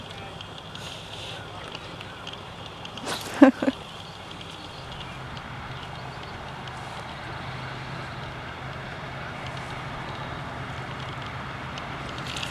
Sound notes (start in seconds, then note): 3.0 laughing